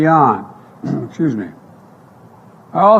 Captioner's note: clears throat